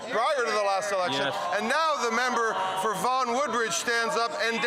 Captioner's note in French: voix de l'interprète